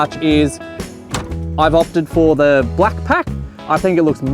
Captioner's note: drawer clangs